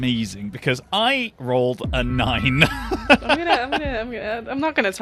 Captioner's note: laughs